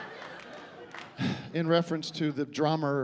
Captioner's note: sighs